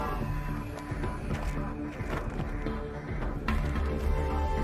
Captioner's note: footsteps sounding